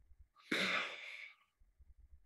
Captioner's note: exhales